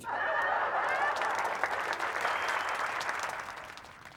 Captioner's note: crowd laughing